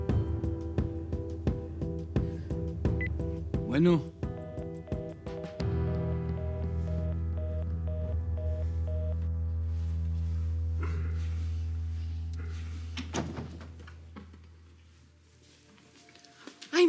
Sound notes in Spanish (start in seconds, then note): 6.3 Señal de línea fuera de tono; 12.9 Sonido al cerrar la puerta